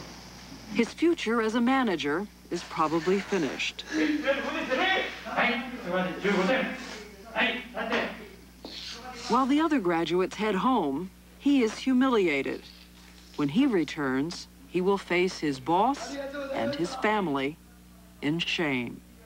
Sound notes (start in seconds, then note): 3.8 man sobbing; 5.0 speaking Japanese